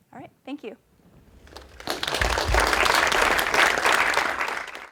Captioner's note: applause